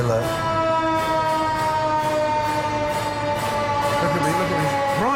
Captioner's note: sirens wail